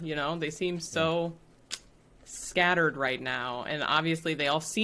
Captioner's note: clicks